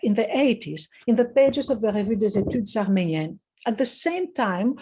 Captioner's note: speaking in foreign language